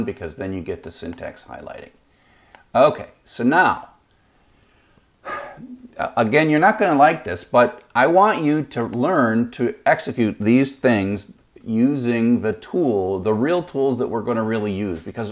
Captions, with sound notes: because then you get the syntax highlighting. Okay, so now... (sighs) Again you're not gonna like this but I want you to learn to execute these things using the tool, the real tools that we're gonna really use